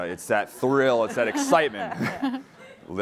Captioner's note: laughing